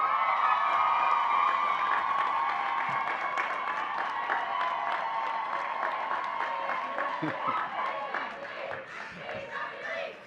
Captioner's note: audience cheering and clapping